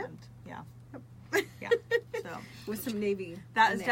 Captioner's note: laughs